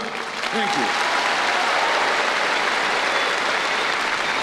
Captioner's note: applause